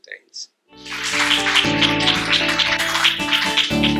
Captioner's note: applause